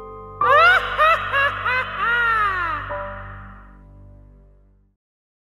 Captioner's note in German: Bösartiges Gelächter